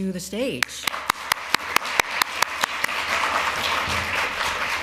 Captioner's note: applause